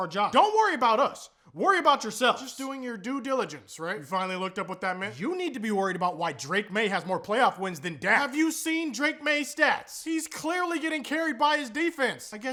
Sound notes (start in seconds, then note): none